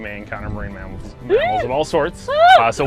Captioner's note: excited laugh